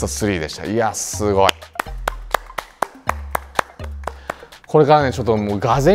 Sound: applause

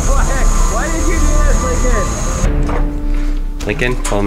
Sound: laughing

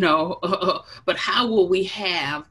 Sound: chuckles

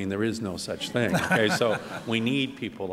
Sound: laughter

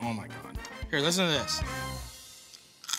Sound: crunching

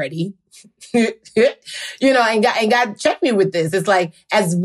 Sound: chuckles

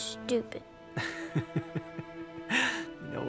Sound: Scout laughs

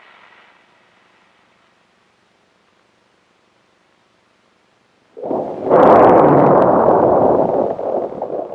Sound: sound of Engines Firing

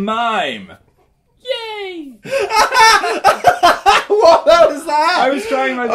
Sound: laughing hysterically

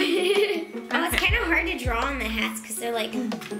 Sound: giggling

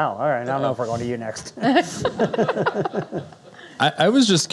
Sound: laughing

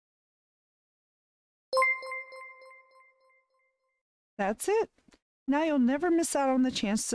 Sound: alert Sound

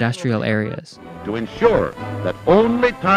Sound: soundbite of archived recording

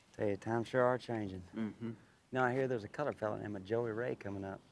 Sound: laughs

